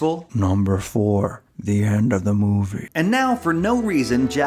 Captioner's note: Mr. Plinkett voice